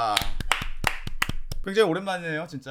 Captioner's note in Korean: 짝짝짝